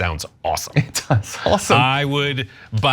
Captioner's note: laugh